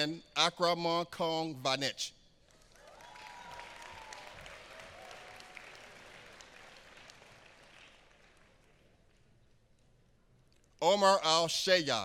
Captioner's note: applause